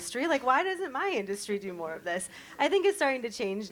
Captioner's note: none